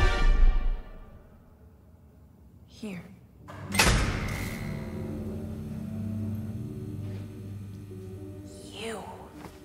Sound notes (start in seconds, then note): 3.4 lights buzzing